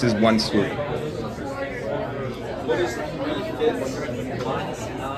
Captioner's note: attendees chattering